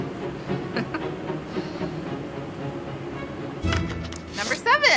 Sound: chuckles; dramatic music

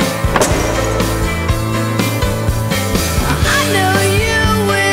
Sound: lamp and table crashing

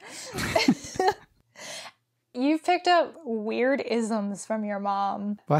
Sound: both laugh

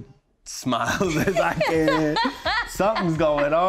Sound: laughs

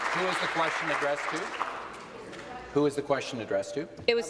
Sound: applause

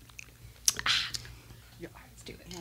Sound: lips smacking; exhales

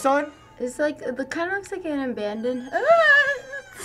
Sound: squeals

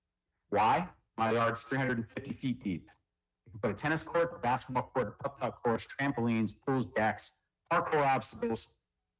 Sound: ~audio distortion~; ~audio distortion~

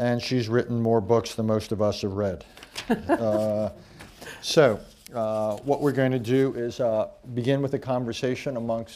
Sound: laughter

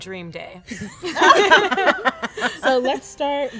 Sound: all laughing

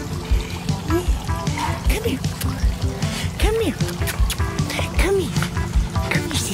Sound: kissing sounds; kissing sound

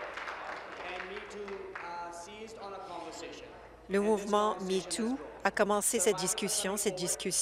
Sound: applause

